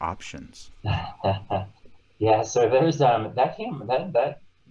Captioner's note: laughing